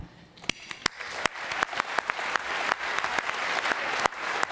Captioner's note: applause